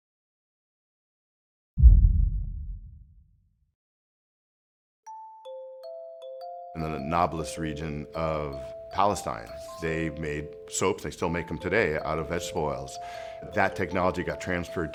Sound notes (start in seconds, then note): 1.8 low boom; 4.8 gentle music continues